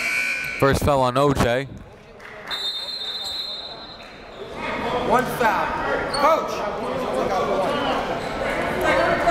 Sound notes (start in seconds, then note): 0.5 buzzer dings; 2.5 whistle blows